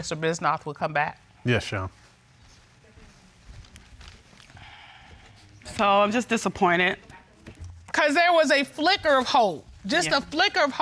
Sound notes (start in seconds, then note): 3.9 sighs